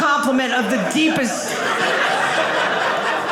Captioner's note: audience laughing